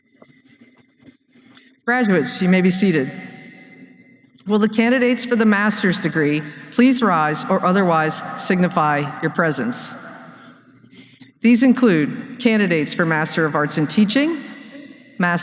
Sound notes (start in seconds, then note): none